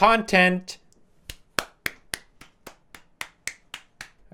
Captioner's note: claps